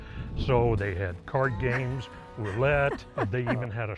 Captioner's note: laughs